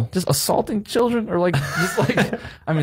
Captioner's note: Cody laughing